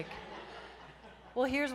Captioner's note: audience laughs